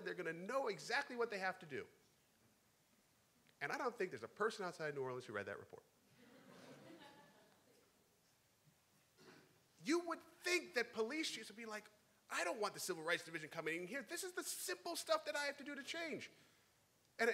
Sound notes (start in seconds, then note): 6.1 crowd; 6.2 laughing